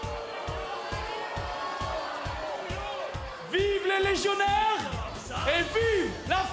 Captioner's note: cheers & boos